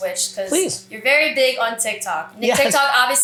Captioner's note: laughs